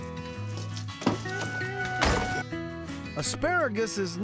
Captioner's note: door opens, closes